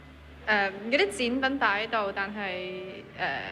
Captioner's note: Cantonese